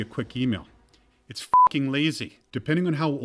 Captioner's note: beep